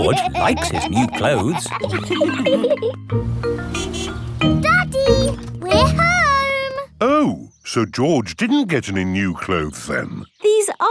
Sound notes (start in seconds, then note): 3.2 horn honks